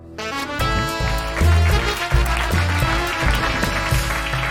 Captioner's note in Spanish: Aplausos